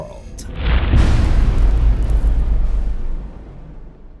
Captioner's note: impact